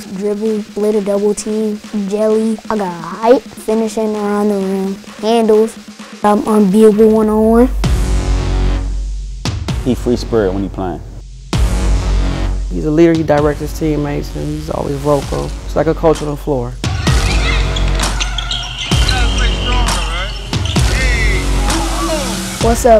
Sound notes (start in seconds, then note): 17.0 children cheering; 17.2 dribbling sounds